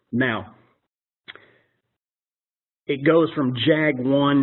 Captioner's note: pause